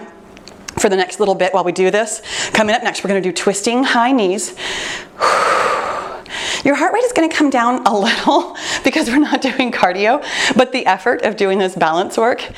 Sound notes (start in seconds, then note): 4.6 exhales sharply; 7.8 chuckles